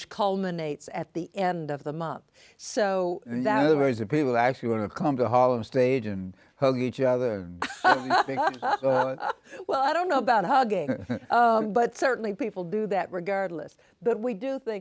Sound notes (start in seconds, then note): 7.6 laughing